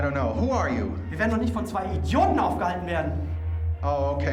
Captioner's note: speaking german